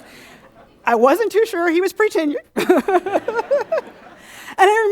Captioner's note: laughs